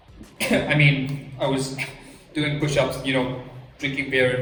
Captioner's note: cough